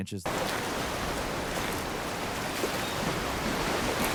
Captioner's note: river surging